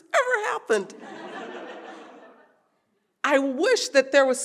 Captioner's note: audience laughing